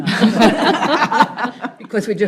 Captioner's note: group laughs